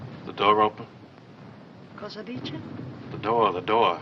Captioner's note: speaking in italian